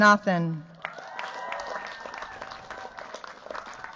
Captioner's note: cheers, applause